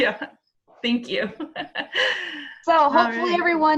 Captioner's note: chuckles; laughs